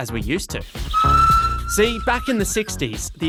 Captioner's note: he whistles